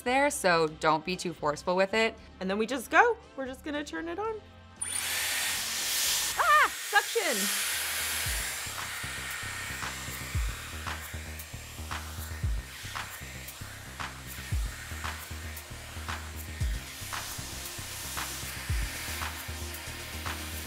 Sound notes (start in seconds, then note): 4.9 hair tool whirring; 8.2 upbeat music